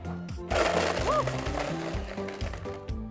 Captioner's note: blender whizzes